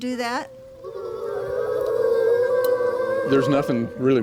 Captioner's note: class imitates owl